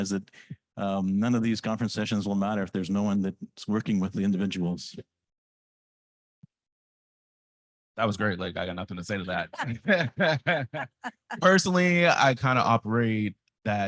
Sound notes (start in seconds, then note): 9.5 laughs